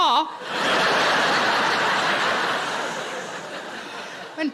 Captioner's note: audience laughing